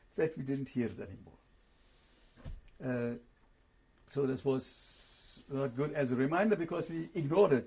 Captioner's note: pauses for 3 seconds